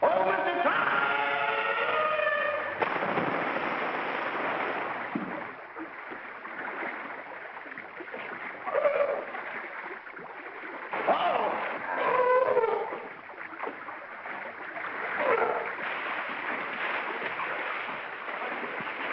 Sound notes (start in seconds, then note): 2.5 big splash; 4.9 water splashing; 8.6 seal barks; 11.8 seal barks; 15.2 seal barks; 16.6 water splashing